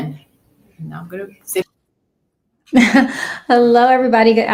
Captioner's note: laughs